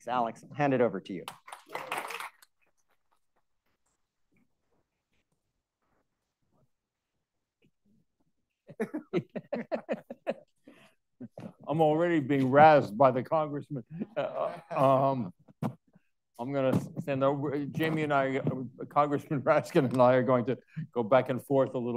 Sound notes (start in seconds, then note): 1.2 audience clapping; 8.7 Alex and Jamie laughing